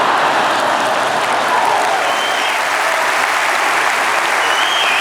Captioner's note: laughter; applause